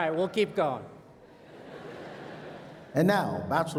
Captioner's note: laughter